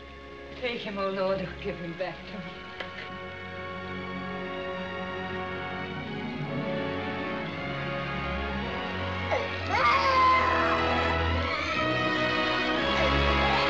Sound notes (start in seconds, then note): 9.2 baby Crying